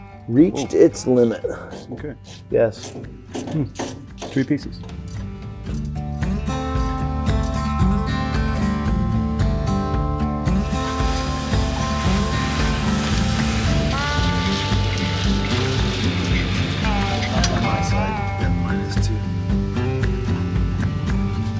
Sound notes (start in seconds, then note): 5.9 gentle western music; 10.5 hose swishing; 21.3 gentle western music